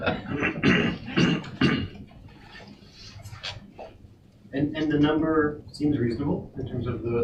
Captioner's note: laughing